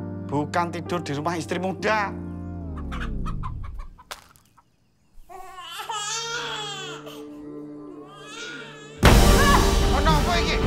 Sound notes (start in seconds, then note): 2.6 chicken cluck; 5.2 baby crying; 7.8 yelps